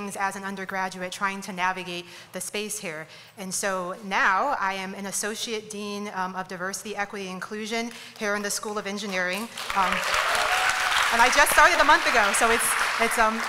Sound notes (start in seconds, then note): 9.4 applause